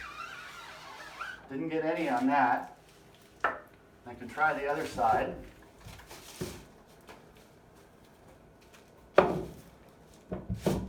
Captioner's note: sqqqqqqqquuuuuuueeeeeeeek